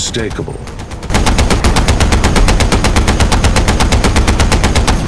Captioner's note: gunshots firing